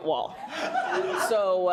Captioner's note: laughs loudly